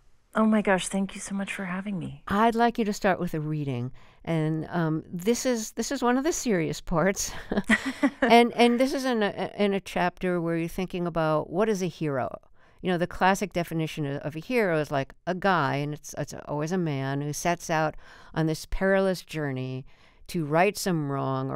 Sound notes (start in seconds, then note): 7.3 laughter